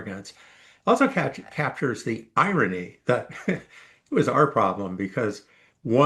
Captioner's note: laugh